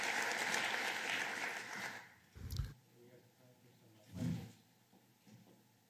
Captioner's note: applause